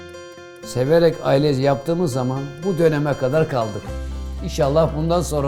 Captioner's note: speaking in foreign language